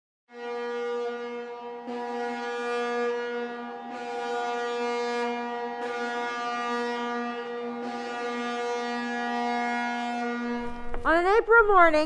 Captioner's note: ship horn